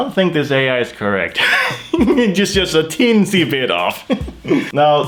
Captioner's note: laughs